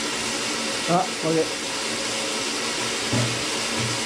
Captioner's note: none